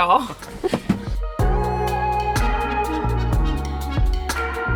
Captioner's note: both laugh; gentle music